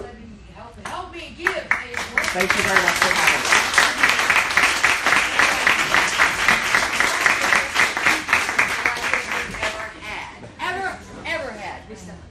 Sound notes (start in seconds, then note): 2.5 applauding